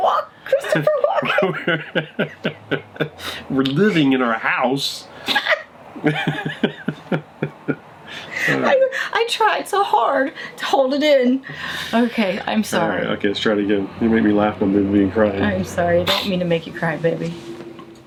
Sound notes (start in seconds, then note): 0.4 both laughing; 5.9 both laughing